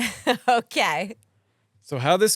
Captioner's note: laughs